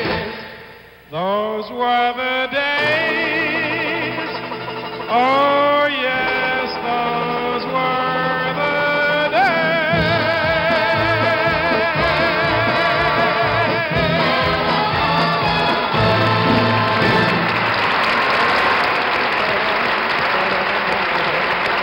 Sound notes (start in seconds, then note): 16.4 audience applauds